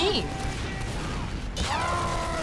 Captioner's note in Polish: dalekie eksplozje; głośny krzyk